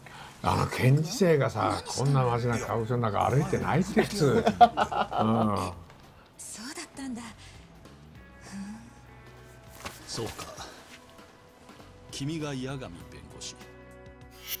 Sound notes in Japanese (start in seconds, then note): 4.8 笑い